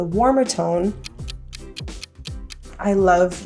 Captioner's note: ticking